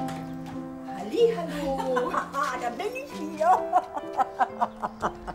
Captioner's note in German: lacht